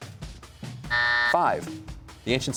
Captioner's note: buzzer sounds